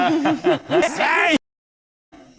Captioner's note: laughing; reversed